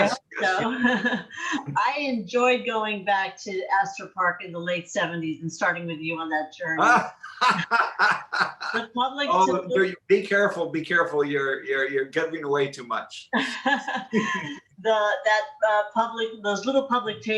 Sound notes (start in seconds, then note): 9.3 laughter